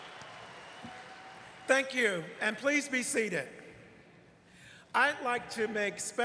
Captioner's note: applause